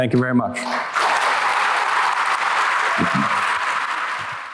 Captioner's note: applause